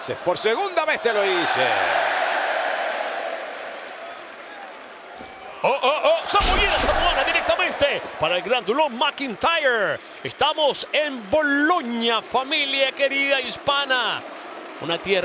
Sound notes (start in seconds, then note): 1.1 applause